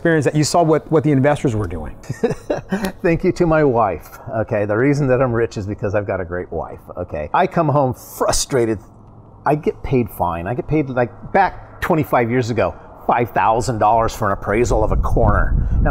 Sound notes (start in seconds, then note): 2.0 chuckles